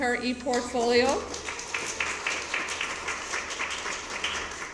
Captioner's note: applause